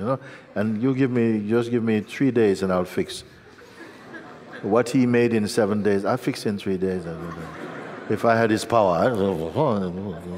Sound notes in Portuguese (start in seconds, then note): 3.4 Risos; 7.2 Mais risos